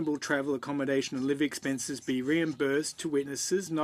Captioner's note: speaking French